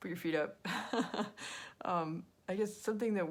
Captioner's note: laughing